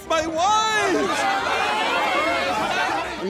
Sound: all shouting

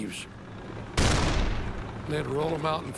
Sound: cannon shots exploding

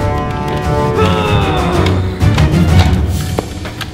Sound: roaring

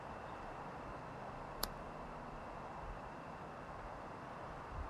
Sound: lighter snapping

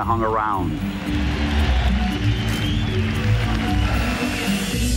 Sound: people cheering

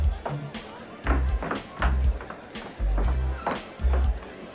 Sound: shoes clicking

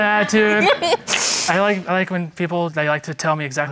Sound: giggles

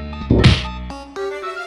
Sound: punch sound

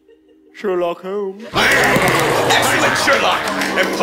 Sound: laughing

